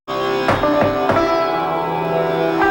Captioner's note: k■ock on door